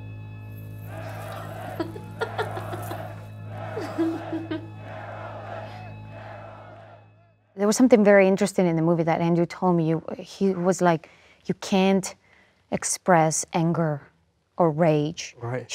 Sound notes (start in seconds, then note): 0.8 audience chanting; 1.3 Marilyn giggling